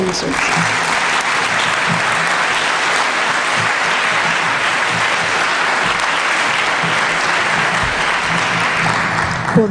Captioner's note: applause